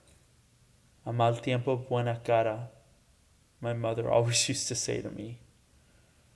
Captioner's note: speaks Spanish